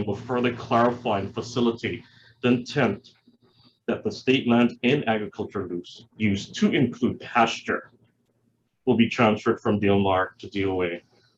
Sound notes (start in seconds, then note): none